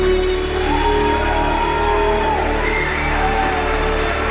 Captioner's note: melodic cinematic music; audience cheering